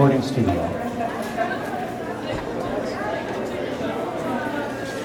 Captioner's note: back ground crowd talking